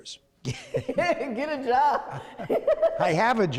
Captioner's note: laughter